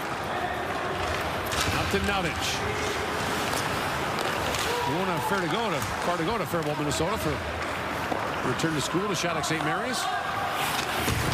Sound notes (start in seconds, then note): 2.1 sports commentary